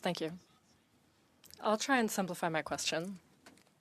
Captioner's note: speaking French